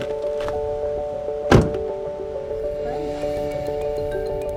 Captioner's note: car door shuts; light ambient music